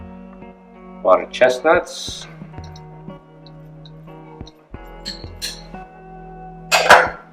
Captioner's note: spoon scraping bowl